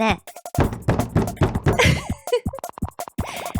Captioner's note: sound of knocking on the door